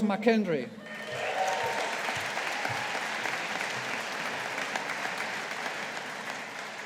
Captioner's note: audience applauding